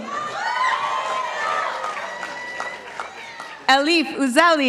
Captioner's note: participants applauding